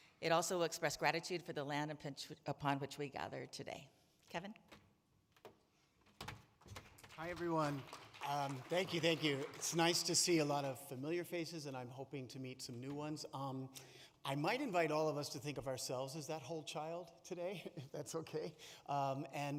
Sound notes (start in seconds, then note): 6.7 audience claps